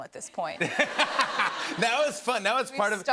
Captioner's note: laughter